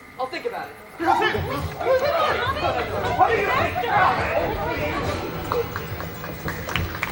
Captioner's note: arguing